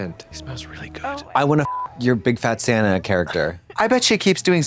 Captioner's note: beep